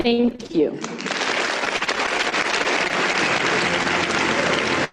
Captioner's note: audience applauding